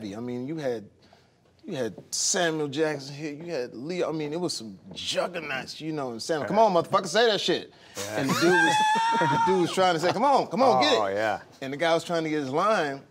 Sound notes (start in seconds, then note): 7.8 wheezing